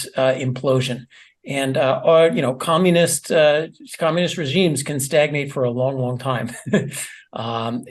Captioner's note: laugh